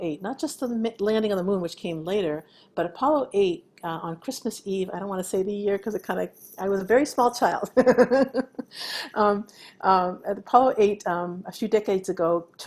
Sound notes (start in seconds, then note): 7.8 laughing